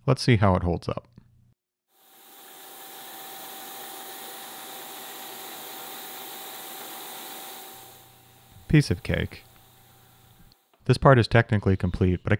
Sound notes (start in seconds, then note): 1.9 machine whirring